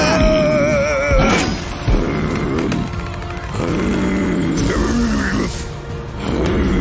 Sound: screaming; roaring

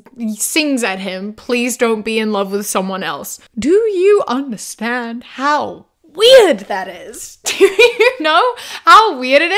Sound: laughs

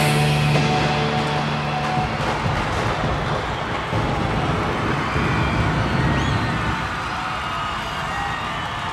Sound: fireworks banging; crowd cheering

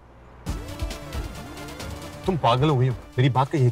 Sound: car speeding

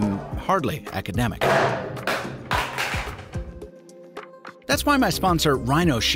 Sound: phone clattering

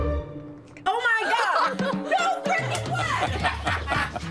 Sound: laughs

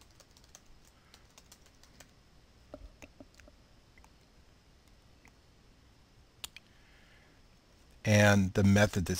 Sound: typing

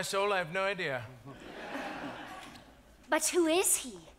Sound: audience laughs

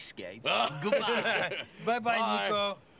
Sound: Jake laughing

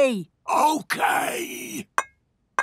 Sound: whispering

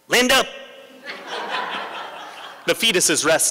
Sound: laughter

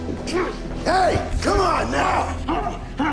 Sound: grunting, struggling

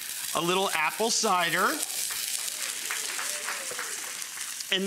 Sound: audience clapping

